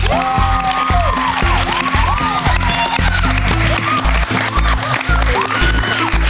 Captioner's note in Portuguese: Gritos